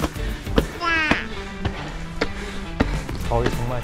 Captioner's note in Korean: 점점 거칠어지는 숨소리